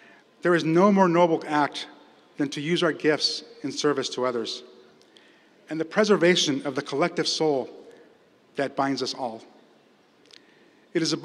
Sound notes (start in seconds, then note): none